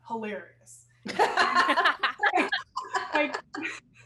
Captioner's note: all laughing